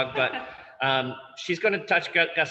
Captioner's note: laughs